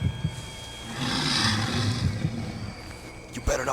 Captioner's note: growls